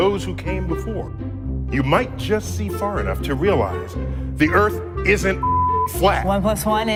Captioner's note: pitido